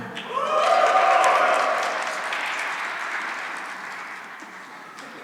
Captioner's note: cheering and applause